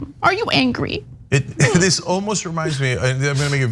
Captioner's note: laugh